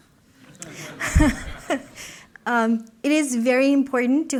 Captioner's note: laughter